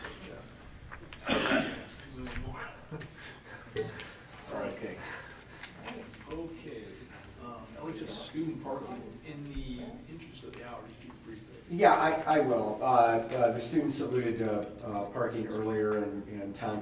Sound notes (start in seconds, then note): 2.4 laughs